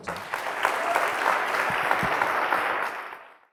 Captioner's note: applause